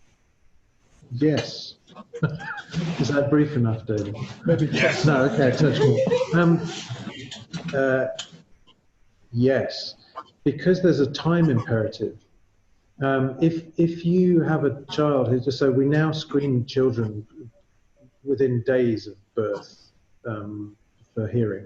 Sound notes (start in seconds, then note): 4.0 laughter; 7.4 more laughter